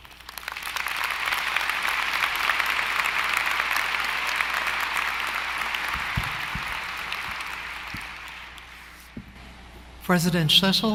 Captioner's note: applause